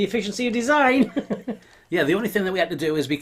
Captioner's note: chuckling